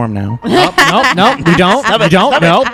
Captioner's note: laughter